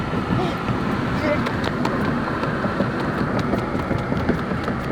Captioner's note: running steps